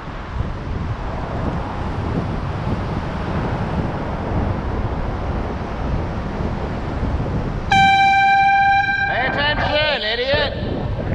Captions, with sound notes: *AIRHORN* PAY ATTENTION, IDIOT!!